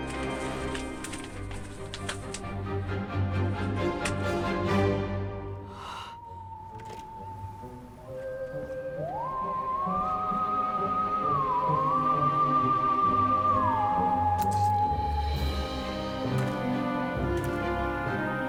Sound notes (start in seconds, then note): 0.0 papers rustling; 5.6 bucky gasps; 14.3 water spits